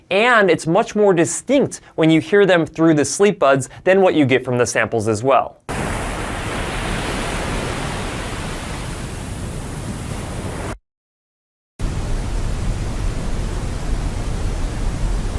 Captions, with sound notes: and it's much more distinct when you hear them through the Sleepbuds than what you get from the samples as well. (ocean water crashing) (white noise whooshing)